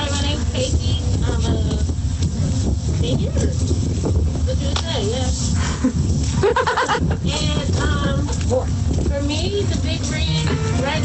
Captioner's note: laughter